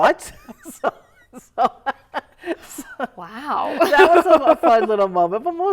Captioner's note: laughter